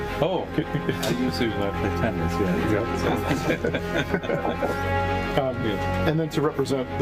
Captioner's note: laughter